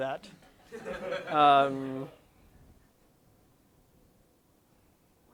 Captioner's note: laughter